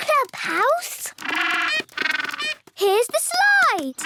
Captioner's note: honking